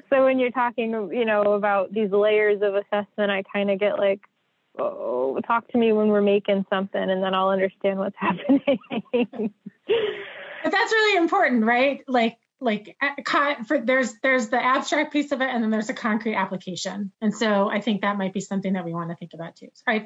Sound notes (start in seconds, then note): 8.0 laughs